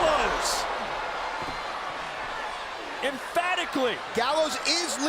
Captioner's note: applause